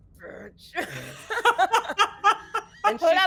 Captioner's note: both laughing